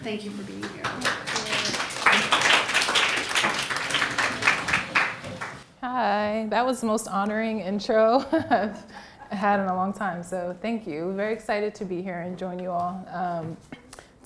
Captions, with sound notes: Thank you for being here. - Thank you. (audience applauds) Hi! That was the most honoring intro (laughs) I had in a long time so thank you. I'm very excited to be here and join you all.